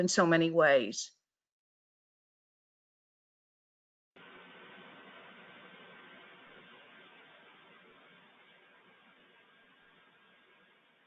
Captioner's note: moment of silence